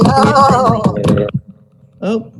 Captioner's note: shouting and clapping